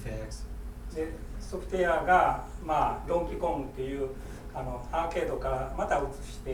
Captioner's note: speaking in foreign language